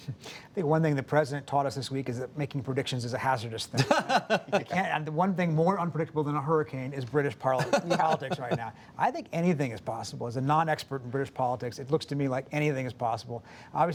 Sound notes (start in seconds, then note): 0.6 laughs; 3.7 laughter